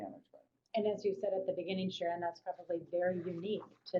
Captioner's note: voiceover